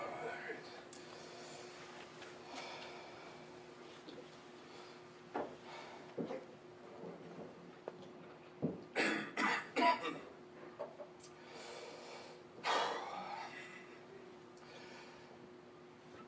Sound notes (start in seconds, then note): 8.9 coughs; 11.3 exhales noisily